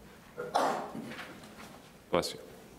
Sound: sneezing

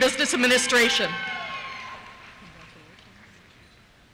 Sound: cheers

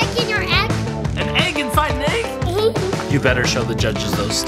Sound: laughs

